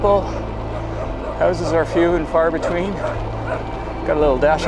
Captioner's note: dog barking